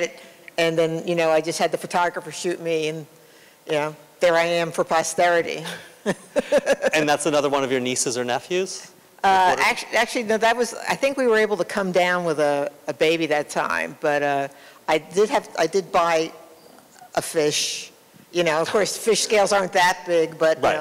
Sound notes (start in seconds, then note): 5.6 laughter